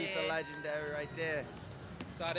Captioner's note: crowd cheers